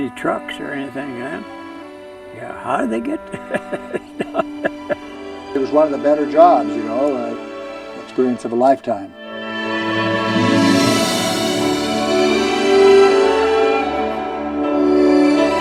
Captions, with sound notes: There wasn't any trucks or anything then. How'd they get there? (chuckling) - [Voiceover] It was one of the better jobs, you know, an experience of a lifetime. (majestic orchestral music)